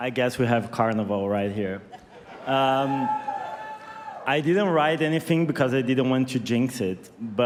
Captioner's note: cheers and applause